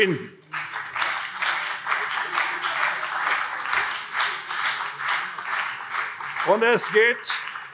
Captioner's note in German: Beifall CDU und vereinzelt SPD